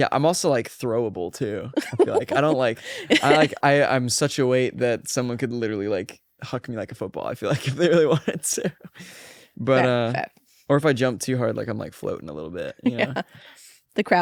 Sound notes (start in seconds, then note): 1.7 laughs; 8.8 laughs; 12.7 laughs